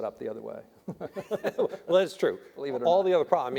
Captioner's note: panelists laughing